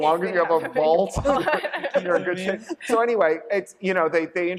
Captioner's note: laughter